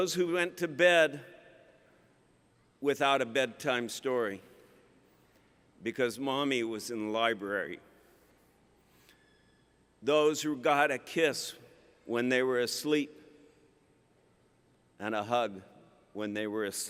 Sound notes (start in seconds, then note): none